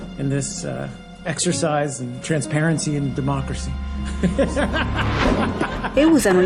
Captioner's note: loud laughter